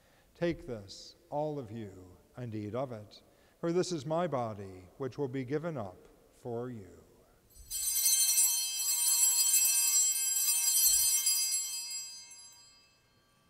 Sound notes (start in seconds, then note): 7.5 bells chiming